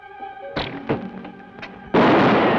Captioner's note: bow twangs; gun fires; bullet ricochets